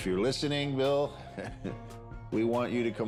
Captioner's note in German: lacht